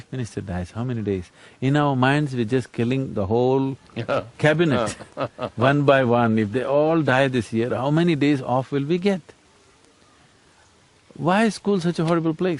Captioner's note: laughs